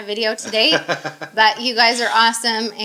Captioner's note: laughing